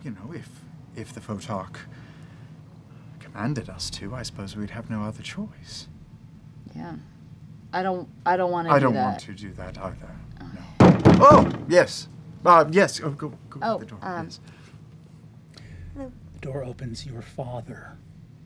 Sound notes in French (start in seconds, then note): 10.7 coups de poing sur la porte